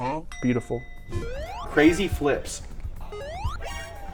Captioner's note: electronic chirping